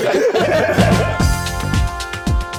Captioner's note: laughter; soft upbeat music